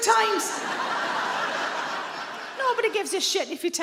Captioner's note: audience laughing